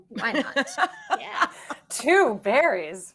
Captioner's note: all laughing